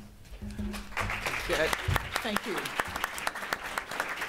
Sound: applause

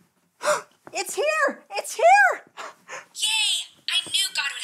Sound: gasps

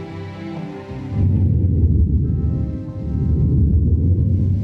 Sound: air whooshing

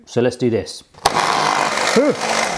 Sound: blender whirs

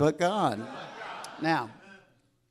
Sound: crowd

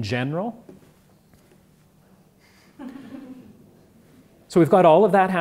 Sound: laugh

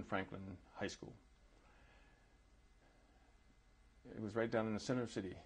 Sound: pauses for 3 seconds

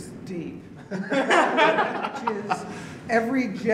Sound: laughter

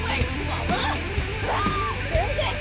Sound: more screaming, shit

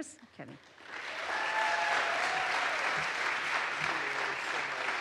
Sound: audience applauds

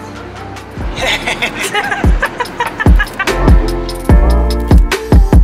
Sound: laughter

